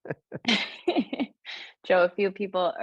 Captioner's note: laughs